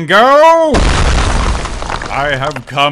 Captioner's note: another crashing sfx